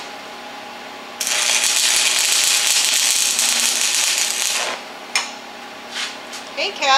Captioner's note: welding